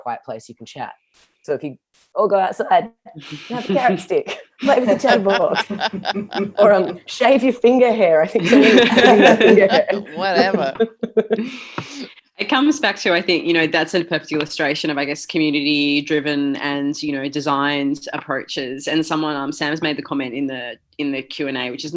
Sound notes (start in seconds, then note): 8.4 laughter